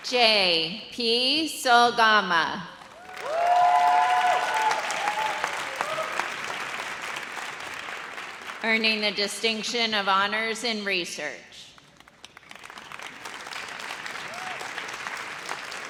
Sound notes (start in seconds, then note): 2.9 audience cheers; 11.8 audience applauds